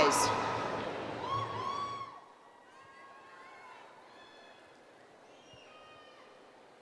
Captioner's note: cheering